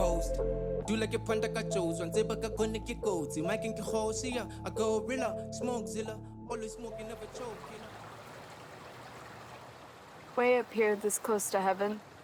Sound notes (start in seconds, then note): 6.9 music fades; 7.0 water burbles